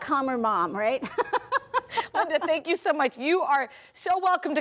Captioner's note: laughs